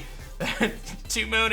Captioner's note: chuckles